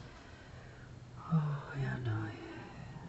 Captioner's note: foregin language